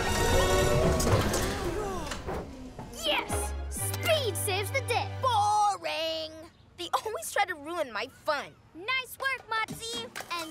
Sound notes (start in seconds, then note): 1.5 sighs of relief